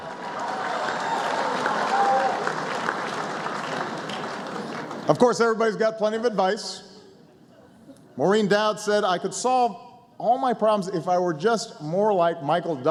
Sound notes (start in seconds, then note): 6.9 laughter